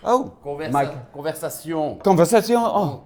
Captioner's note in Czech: s francouzským přízvukem